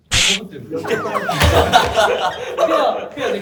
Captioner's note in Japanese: 笑い声